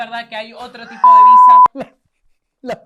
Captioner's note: laughs